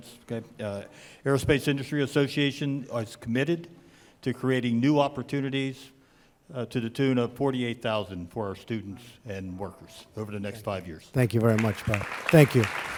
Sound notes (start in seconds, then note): 11.2 applause